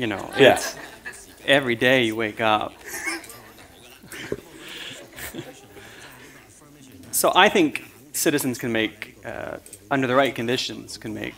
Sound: chuckle

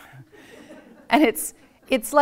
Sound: audience laughs

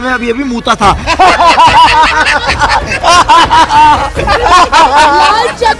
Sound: laughing

